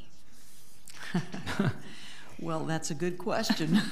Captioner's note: laughs